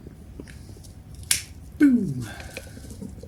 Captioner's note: snap & ignite